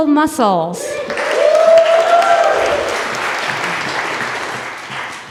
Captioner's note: audience applause